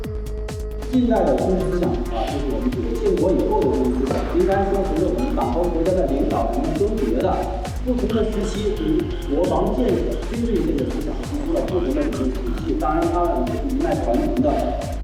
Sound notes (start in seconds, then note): 1.0 voice of instructor in a lecture